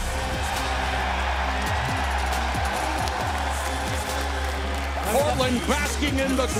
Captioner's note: crowd cheering